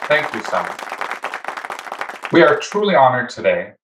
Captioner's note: people clapping